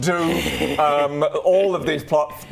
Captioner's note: evil laugh